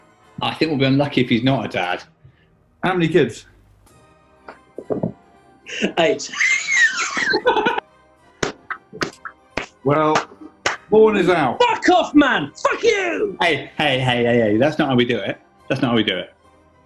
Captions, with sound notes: I think we'll be unlucky if he's not a dad. How many kids? ...Eight. [LAUGHING] [APPLAUDING] Well... Horne is out. Fuck off, man! Fuck you! Hey! Hey, hey, hey, hey – that's not how we do it. That's not how we do it.